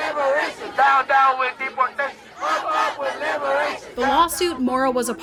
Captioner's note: chant